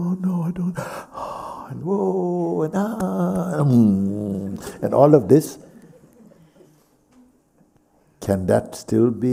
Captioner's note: claps